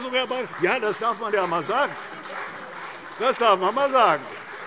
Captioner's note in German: Beifall CDU und vereinzelt BÜNDNIS 90/DIE GRÜNEN